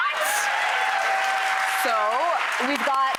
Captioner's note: applause